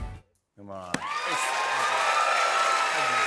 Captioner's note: cheers and applause